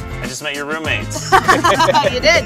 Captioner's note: laughter; laughs